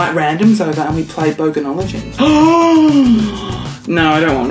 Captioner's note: gasps